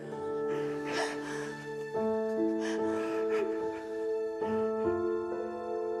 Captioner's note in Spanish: sollozos de salvador y de sara